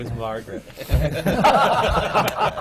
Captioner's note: laughter, especially